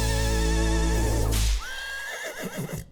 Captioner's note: whip cracks; horse whinnies